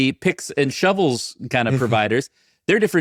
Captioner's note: chuckling